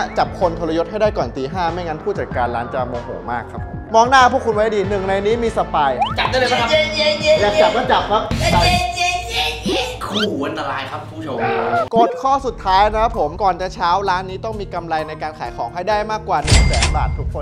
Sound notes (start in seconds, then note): 7.0 mocking; 8.4 mocking continues